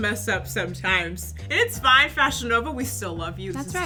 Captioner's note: swoosh